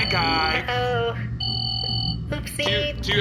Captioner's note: alarm pinging nervously